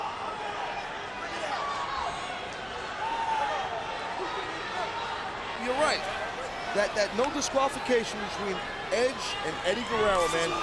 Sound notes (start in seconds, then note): 5.6 applause